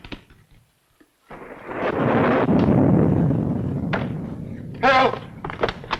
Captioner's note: thunder rumbling